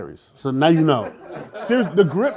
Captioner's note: laughter